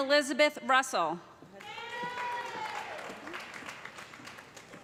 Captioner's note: cheers and applause